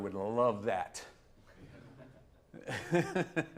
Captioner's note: chuckles